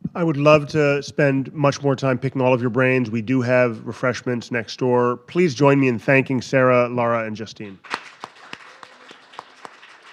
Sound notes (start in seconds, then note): 7.8 audience applauding